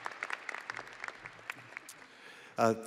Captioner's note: audience applauding and cheering